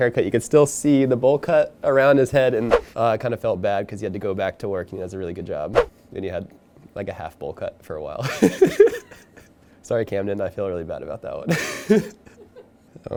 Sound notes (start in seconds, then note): 8.2 laughing; 11.5 laughing